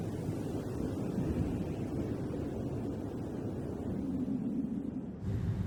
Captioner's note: wind blowing continues